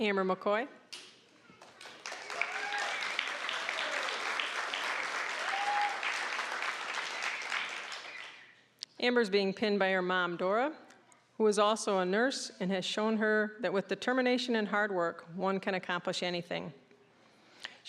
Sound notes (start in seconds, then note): 1.5 applause